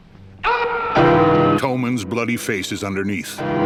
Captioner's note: Mayor shouting